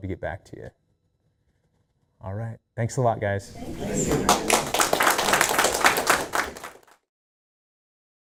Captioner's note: applause